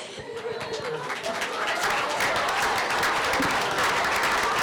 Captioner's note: applause